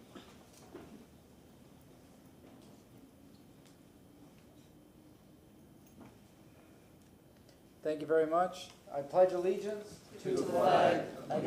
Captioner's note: moment of silence